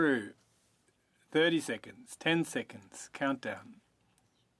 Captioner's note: speaking French